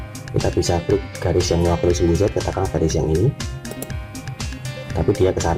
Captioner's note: click